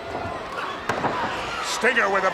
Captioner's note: Ric thudding on ring